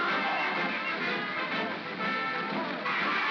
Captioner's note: triumphant music; water splashing; mob cheers; triumphant music